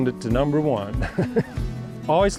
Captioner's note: laughs